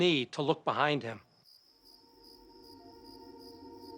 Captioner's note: crickets chirping; eerie music